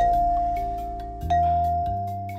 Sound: dings

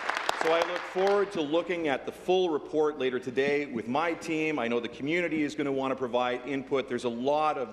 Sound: applause

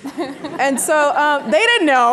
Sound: audience laughing

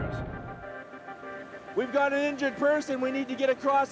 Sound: voiceover

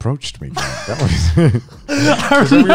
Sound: laughs

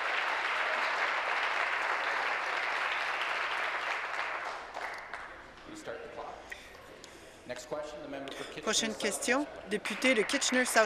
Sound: applause

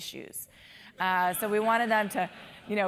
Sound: laugh

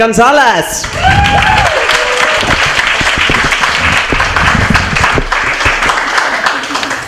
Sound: applause

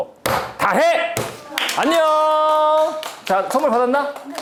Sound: applause for the famous saying

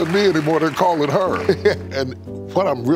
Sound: Steve laughs

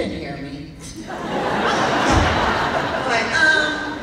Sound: laughing

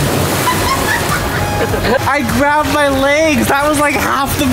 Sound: laughing

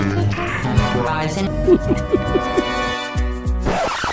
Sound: evil laughter

